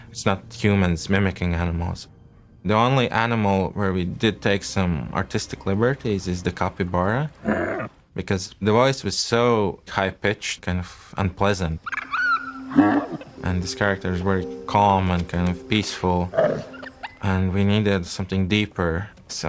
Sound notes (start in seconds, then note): 7.4 capybara grunting; 11.8 lemur vocalising; 12.6 capybara grunting